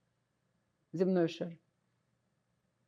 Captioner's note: russian